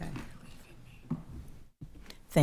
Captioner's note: whispering